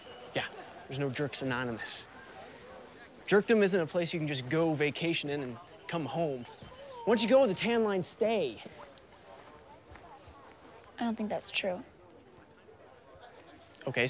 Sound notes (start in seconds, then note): none